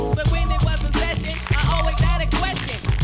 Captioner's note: Schüttelgeräusche